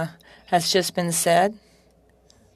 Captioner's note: speaking French